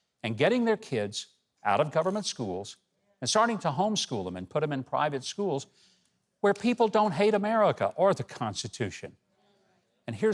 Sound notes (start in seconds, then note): none